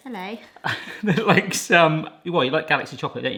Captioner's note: laughs